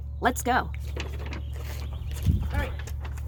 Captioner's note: paper bag rustling